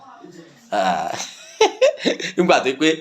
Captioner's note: laughing